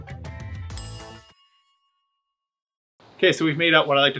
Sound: upbeat funky music continues; bell dings

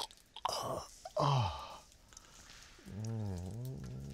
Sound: moaning with pleasure

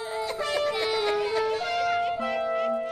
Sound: crying

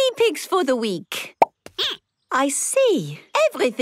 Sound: squeaking

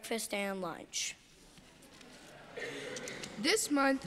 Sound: congregation laughing

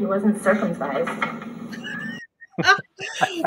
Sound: off-camera voice

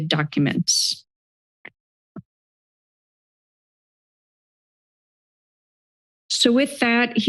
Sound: silence

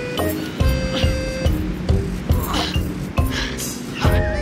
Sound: panting

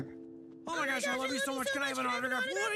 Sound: overlapping excited chatter

